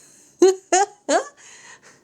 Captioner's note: laughter